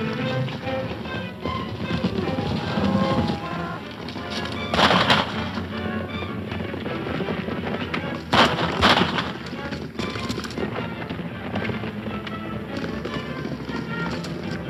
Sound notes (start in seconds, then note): 0.0 energetic orchestral music; 0.0 galloping hooves; 4.7 firing gun; 4.9 galloping hooves; 10.8 energetic orchestral music